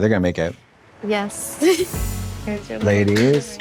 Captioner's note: blonde Women clap